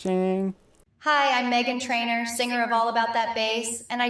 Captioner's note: AI Generated Voice